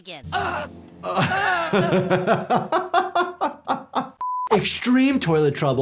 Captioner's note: Clyde's mom groans; Jordan laughs